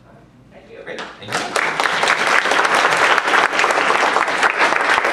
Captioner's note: applause